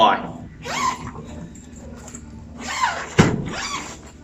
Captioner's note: zipper